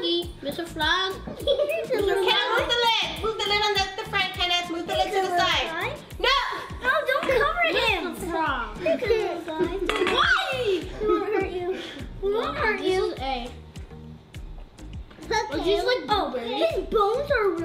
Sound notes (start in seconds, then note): 8.9 chattering together